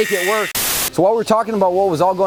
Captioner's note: static